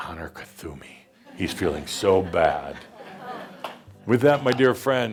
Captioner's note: some chuckles